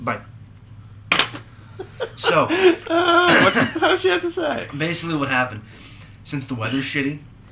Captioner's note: laughter